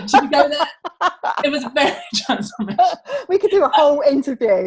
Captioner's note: laughs